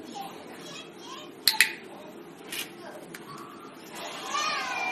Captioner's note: tagulator clicking